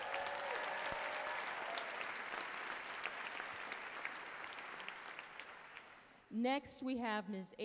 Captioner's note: applause, cheers